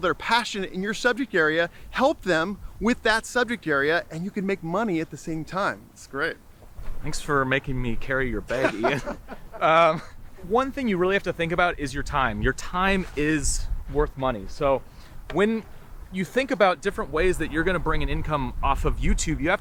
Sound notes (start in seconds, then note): 8.5 laughing